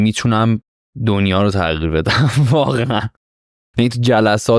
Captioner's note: laughs